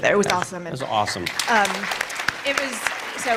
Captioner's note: applause